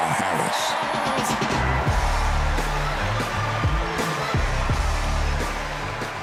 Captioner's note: cheers and applause